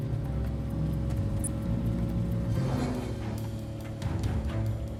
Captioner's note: ticking